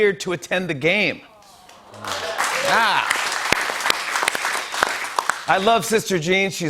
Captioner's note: cheers and applause